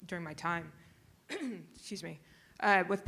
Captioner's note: clears throat